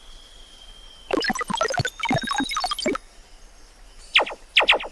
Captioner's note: female prototype blipping; gun blasts